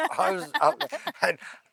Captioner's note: laughing